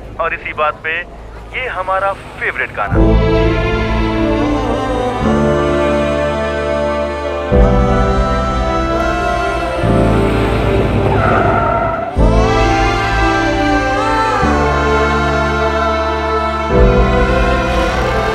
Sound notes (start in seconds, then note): 3.3 Song playing over radio; 11.0 Car halting; 14.5 Song playing over radio